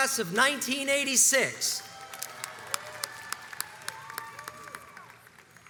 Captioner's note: crowds cheers and applauds